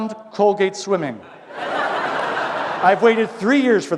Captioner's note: laughter